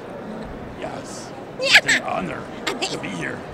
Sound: laughs

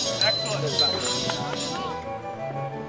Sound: bells chime; classical music

